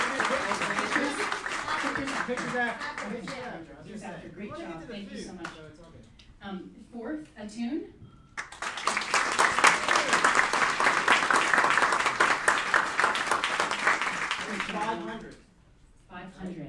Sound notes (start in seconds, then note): 8.3 applauding